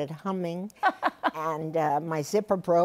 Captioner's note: laughs